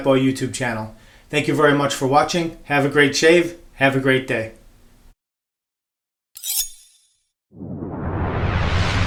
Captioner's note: blade slicing sound